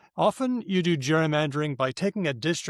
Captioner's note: none